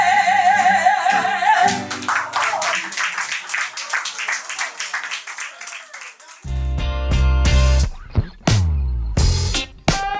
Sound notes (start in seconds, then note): 2.3 audience applauds; 6.5 slow rock music